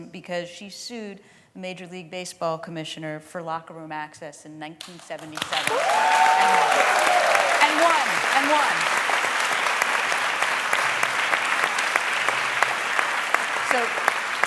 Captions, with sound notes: Because she sued the major league baseball commissioner for locker room access in 1977. [CHEERING] And won, and won. [APPLAUSE]